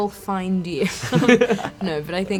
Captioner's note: laughs